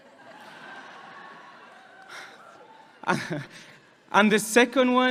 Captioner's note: audience laughing